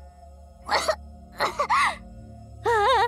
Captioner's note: cough, cough, cough